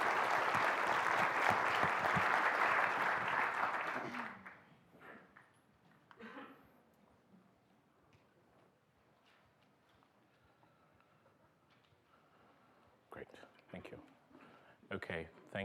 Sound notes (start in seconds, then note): 3.3 applause; 3.3 laughter